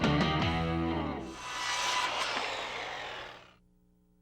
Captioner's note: saw cutting